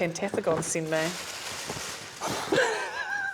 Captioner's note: paper rustles